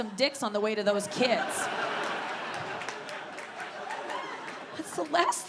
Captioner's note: audience laughing and clapping